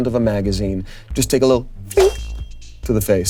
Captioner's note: bell chiming